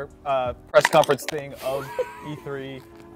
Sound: giggling

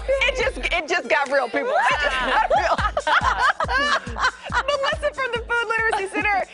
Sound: laughter

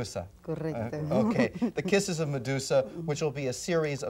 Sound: laughs

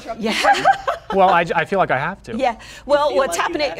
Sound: laughing

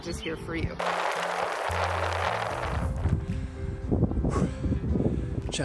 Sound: bike Tires on gravel

